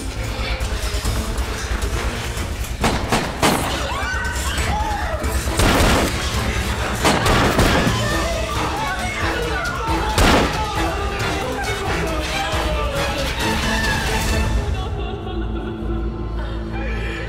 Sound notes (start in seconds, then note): 2.8 gun firing; 3.7 screaming; 14.9 sobbing